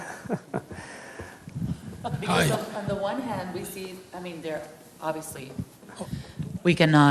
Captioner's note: laughs